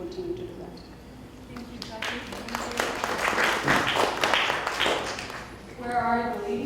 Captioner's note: applause